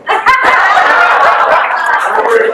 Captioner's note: guests laugh